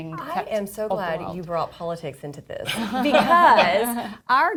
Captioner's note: laughs